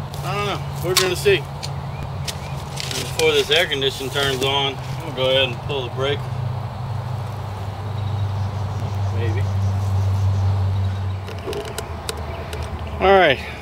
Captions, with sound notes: which I'm not so sure is going to work... I don't know... we're gonna see. And before this air conditioner turns on... I'm gonna pull the breaker... (struggling heard)... Maybe!